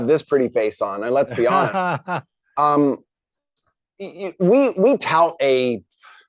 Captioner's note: chuckles